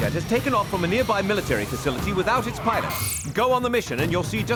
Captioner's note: beeping